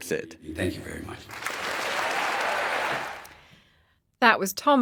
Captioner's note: audience applauding